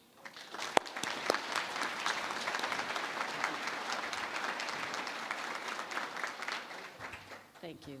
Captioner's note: applause